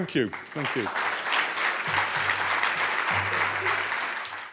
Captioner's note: audience applauding